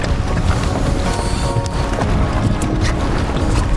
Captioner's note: water splashing